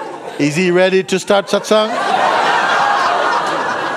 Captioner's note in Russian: смех